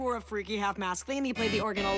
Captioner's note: spoken quickly